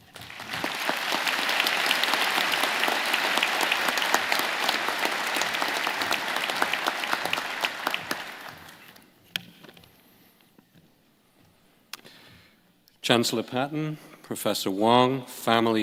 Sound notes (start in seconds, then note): 9.6 applause